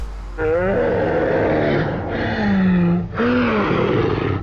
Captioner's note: slow motion screaming